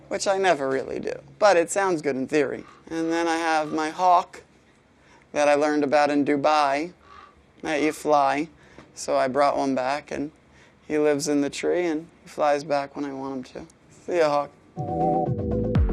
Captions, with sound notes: Which I never really do. But it sounds good in theory. And then I have my hawk, that I learned about in Dubai [hawk cawing] that you fly. So I brought one back and he lives in the tree and flies back when I want him to. See yeah hawk.